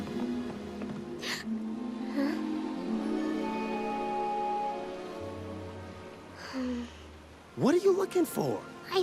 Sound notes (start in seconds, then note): 6.4 sighs